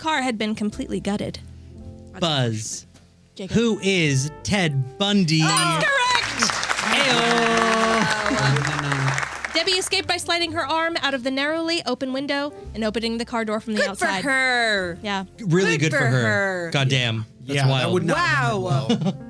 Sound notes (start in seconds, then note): 5.5 applause